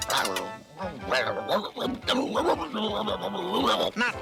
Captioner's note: brain barking